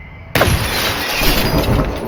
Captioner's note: gunshot